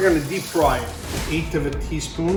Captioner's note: air whooshes